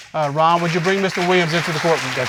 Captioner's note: audience applauding